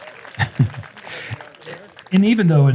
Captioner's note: applause; chuckles